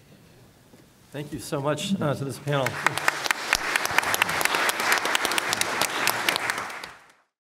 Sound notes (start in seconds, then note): 2.4 applause